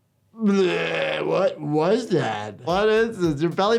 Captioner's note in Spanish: se atraganta